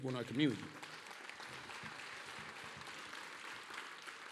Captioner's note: applause